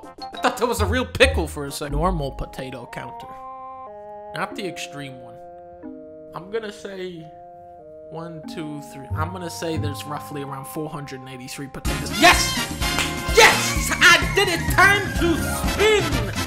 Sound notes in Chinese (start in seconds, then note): 12.8 拍手%%%